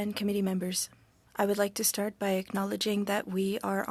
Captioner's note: speaking French